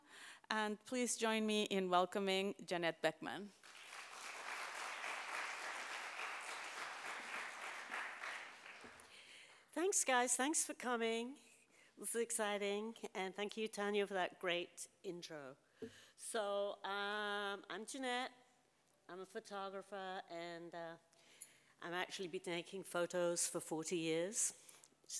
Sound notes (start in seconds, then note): 3.6 audience applauds